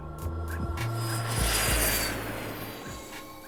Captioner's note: jet engine roars